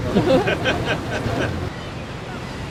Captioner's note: laughter